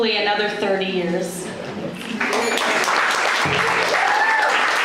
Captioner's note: applause